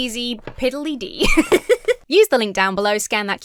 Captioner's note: laughs